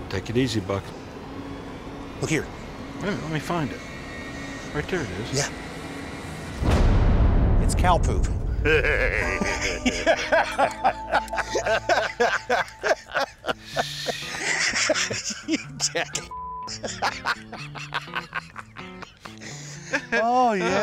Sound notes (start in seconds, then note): 1.3 suspenseful music; 10.5 laughter